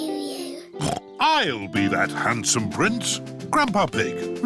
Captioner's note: snorts